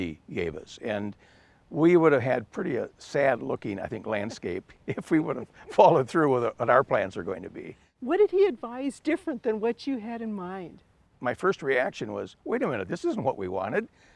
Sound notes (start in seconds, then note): 4.8 both chuckles